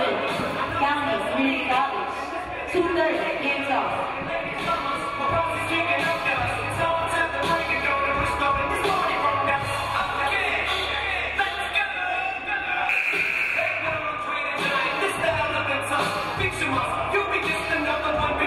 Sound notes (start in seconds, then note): 12.9 game buzzer buzzes